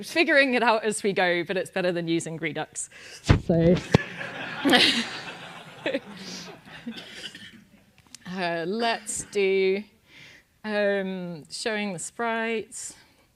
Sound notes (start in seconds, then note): 3.9 laugh